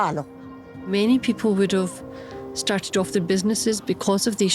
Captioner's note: in English